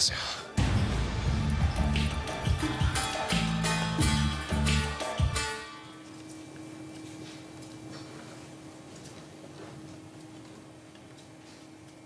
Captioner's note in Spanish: Ruido de un ventilador